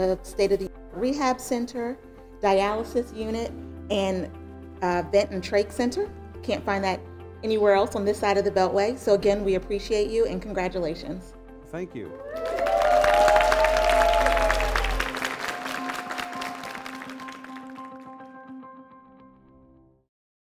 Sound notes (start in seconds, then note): 12.0 cheers and applause; 15.3 soothing music